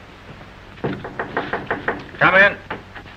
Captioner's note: knocks on door